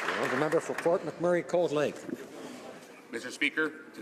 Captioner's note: some Applause